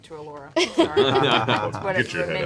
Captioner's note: laughter